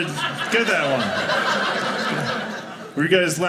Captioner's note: audience laughing